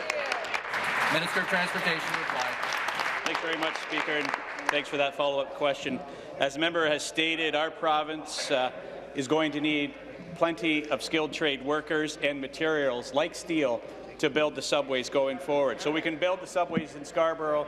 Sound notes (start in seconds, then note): 2.7 applause